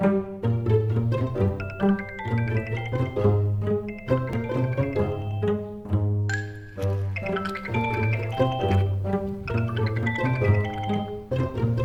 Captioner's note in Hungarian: telefoncsörgés